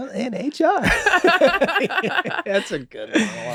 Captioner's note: everyone laughs